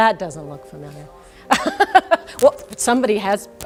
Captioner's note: laughter